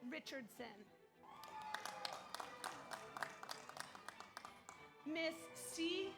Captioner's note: audience applauds; audience cheers